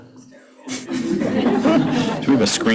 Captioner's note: laughter